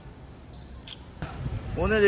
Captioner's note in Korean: 찰칵!